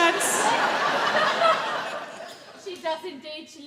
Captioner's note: audience laugh